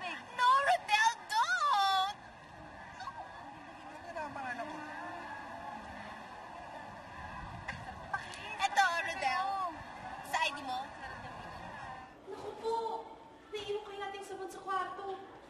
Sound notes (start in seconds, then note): 7.7 chuckles